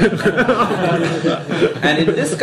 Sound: laughter

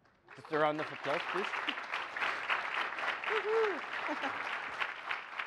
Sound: applause

